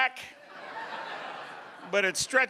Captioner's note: audience laughing